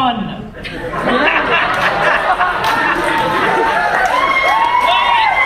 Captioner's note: audience laughs and cheers